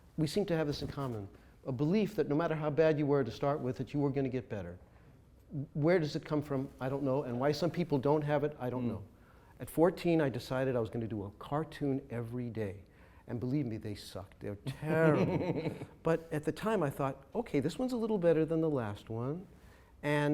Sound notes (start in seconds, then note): 14.7 chuckles